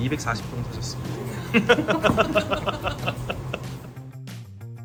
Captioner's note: hahahahaha